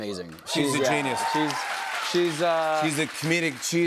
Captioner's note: cheers and applause